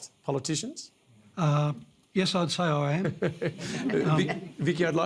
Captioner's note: laughter